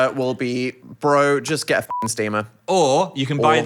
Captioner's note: beep